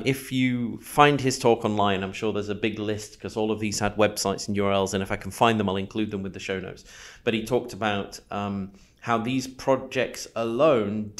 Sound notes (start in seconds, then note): none